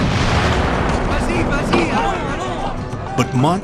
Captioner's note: cannon booms; soldiers chattering in French